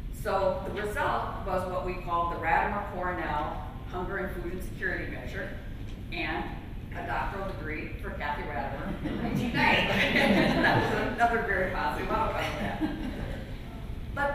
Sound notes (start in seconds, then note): 9.0 laughter